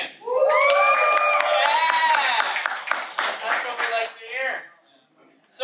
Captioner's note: cheering